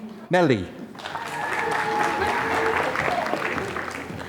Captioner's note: applause